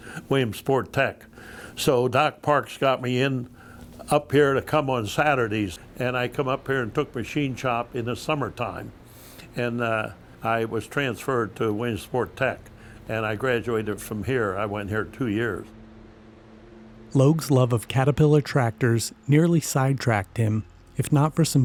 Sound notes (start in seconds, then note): 17.2 voiceover